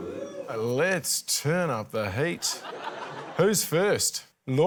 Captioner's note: laughter